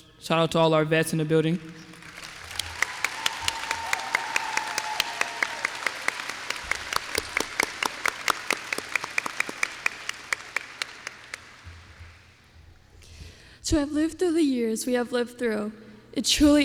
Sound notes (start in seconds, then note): 2.7 applause